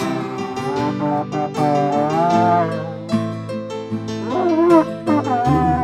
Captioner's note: elephant horn cheering solo